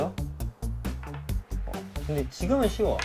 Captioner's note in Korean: 톡톡